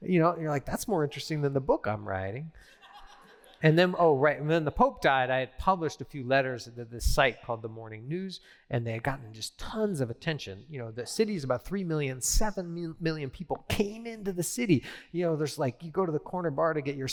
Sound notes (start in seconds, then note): 2.6 laughter